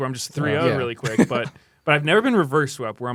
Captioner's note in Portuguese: risos